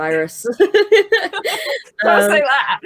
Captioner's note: both laughing